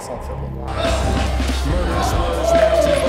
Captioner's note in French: acclamations